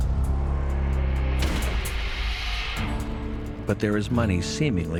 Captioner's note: gun fires